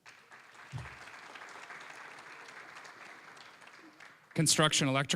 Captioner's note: applause